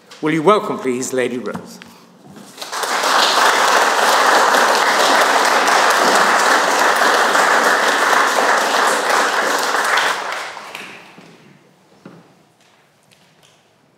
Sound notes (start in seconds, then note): 2.9 audience clapping